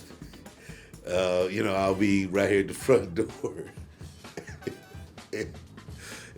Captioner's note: Cedric laughs